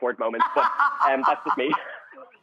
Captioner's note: laughing